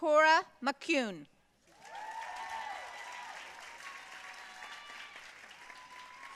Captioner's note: audience cheering and applauding